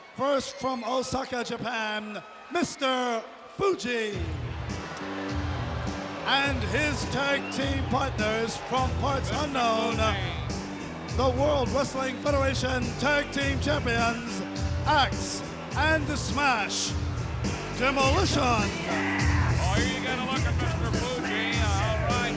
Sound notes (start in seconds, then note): 5.3 crowd boos; 5.3 rock music plays